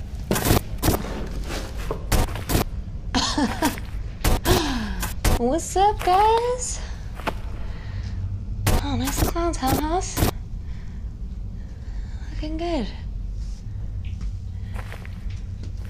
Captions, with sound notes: [STATIC NOISES] [CHUCKLES AND STATIC NOISE] What's up, guys? [STATIC NOISE] Oh, nice clowns, Hell House. Looking good.